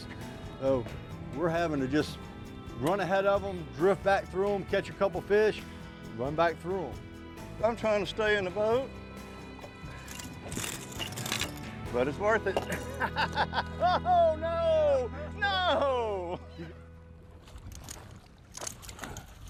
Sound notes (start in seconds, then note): 6.6 rod clattering; 16.2 water rippling